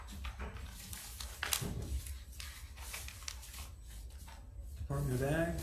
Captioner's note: papers crackling